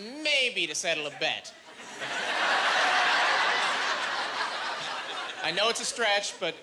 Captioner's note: laughing